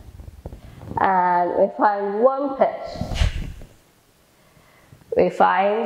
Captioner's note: exhales